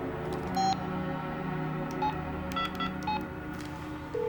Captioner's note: dial tone ringing; phone beeping